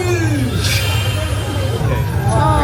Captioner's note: chimes sparkling